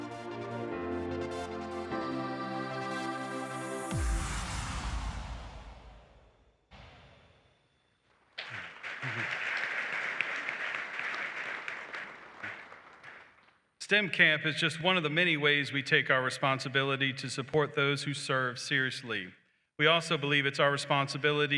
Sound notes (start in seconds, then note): 8.3 applause